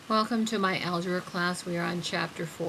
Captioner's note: voiceover